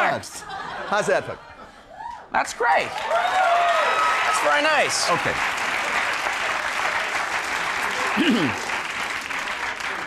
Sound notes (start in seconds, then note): 2.8 crowd cheers